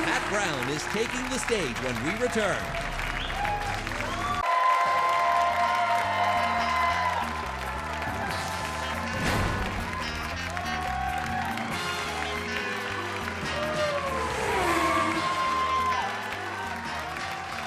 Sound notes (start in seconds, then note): 3.3 audience applauds; 6.1 upbeat music; 14.2 engine revs